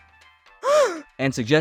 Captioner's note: gasp!!